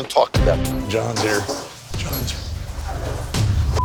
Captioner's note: hushed